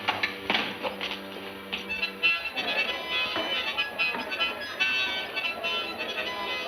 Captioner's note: people chattering; bright music